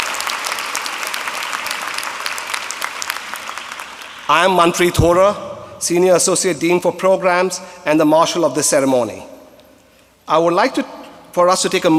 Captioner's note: applause